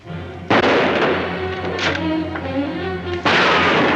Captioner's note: gunshot; suspenseful music; gunshot